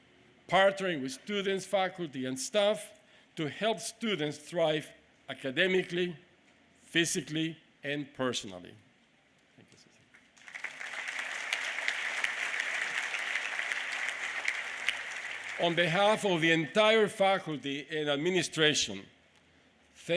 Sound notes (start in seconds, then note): 8.7 applause